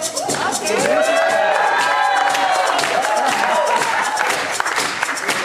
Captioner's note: lively music; audience cheering; audience clapping rhythmically